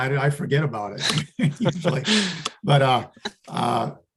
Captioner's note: laughing